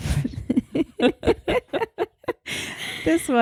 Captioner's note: laughing